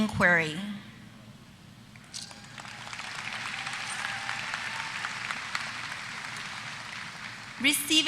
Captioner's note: applause